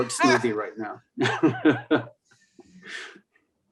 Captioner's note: laughter